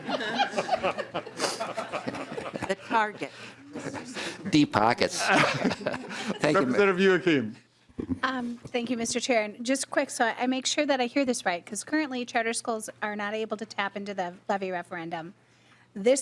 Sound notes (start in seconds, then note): 5.1 laughter